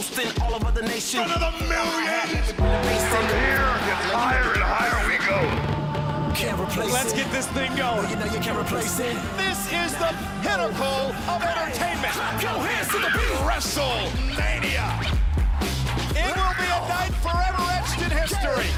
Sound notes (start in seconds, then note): 6.3 bell tolling